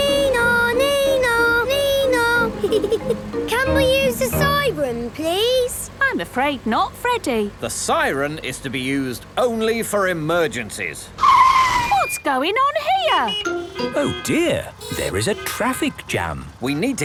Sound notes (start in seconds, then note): 0.2 Freddy imitates the siren; 11.5 brakes screeching; 12.8 honking